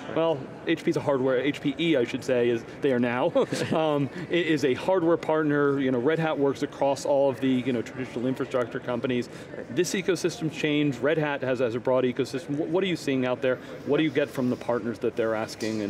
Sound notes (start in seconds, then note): 3.3 laughs